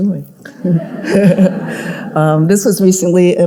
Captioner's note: audience laughing